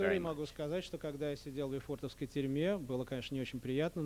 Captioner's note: non-english speech